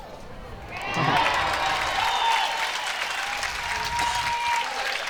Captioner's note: crowd applauds